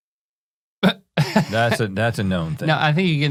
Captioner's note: laughing